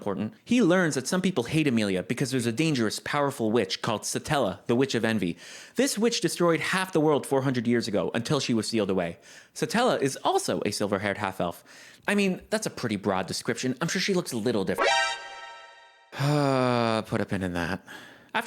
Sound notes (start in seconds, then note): 14.8 Metal Gear Solid Alert; 16.1 defeated sigh